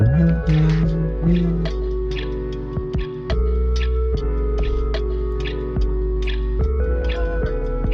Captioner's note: humming; chattering